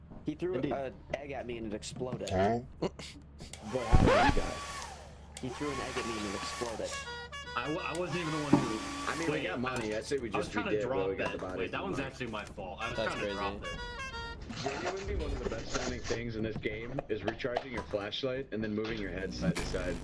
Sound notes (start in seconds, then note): 5.4 hairdryer sounds; 6.8 more airhorn sounds; 6.9 airhorn sounds